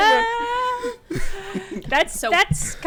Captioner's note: everyone laughing